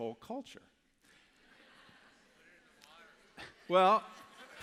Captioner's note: laughter